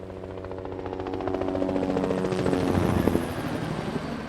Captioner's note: helicopter whirring